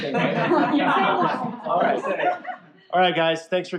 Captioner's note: laughter